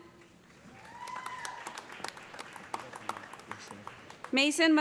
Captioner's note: cheers and applause